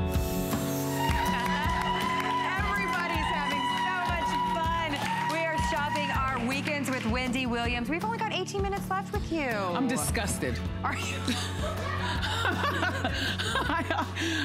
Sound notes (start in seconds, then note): 0.2 applause; 11.2 laughter